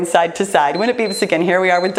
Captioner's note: timer beeps